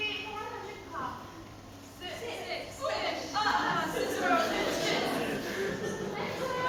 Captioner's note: voices offstage